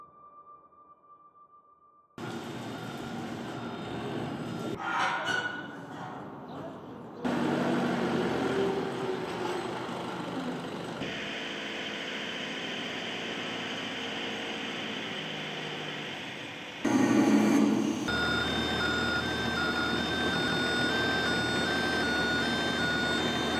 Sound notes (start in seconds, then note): 0.0 dramatic music swelling; 0.2 poignant music; 2.6 machine thrumming; 4.5 iron squeaks; 6.2 people chattering; 7.7 machine thrumming; 17.2 saw buzzing; 18.5 machine beeping; 18.5 vehicle whirring